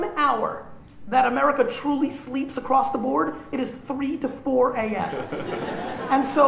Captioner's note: laughter